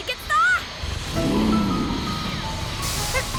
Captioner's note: growling